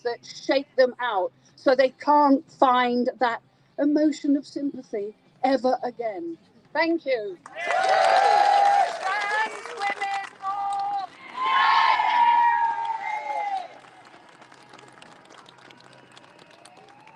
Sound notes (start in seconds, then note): 7.5 crowd cheers